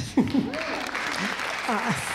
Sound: audience applauding

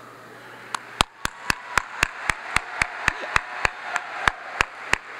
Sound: audience applauds

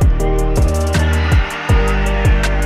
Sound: cheering

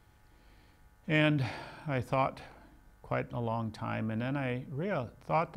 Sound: sighs

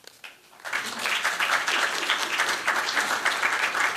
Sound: applause

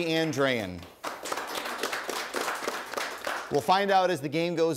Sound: audience applauding

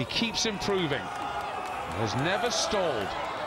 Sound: applause

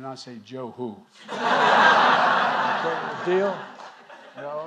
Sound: laughter

